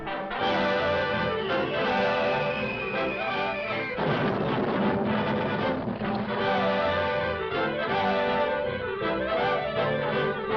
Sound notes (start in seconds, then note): 0.3 triumphant music; 3.8 explosion booms